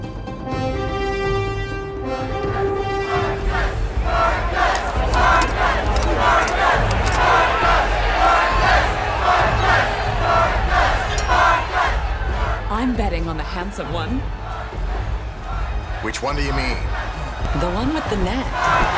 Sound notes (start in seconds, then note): 0.2 horn blows; 2.1 crowd